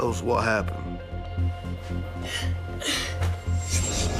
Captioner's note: sobs